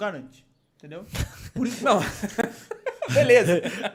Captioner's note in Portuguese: Risos